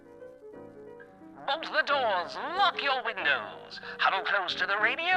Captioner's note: guttural “Howie” scream followed by jazzy music